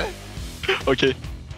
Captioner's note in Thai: หัวเราะ